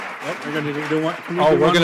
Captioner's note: applause